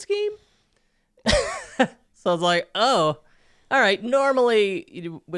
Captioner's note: chuckles